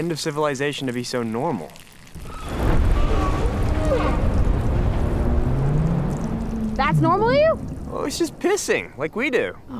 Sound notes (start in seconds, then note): 1.2 creature urinating and vocalizing